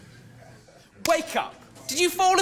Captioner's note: claps